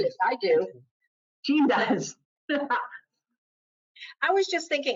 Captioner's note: laughs